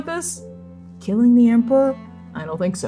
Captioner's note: lowering voice